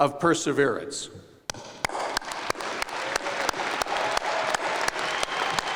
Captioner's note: applause and cheering